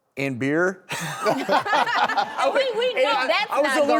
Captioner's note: laughing